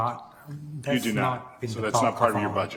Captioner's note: speaks faintly